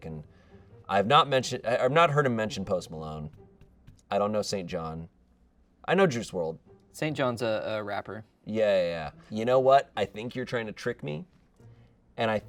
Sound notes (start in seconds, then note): none